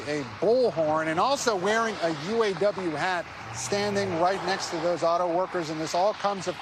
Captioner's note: cheers and applause